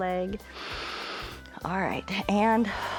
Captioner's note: inhales